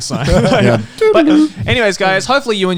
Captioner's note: Garnt laughing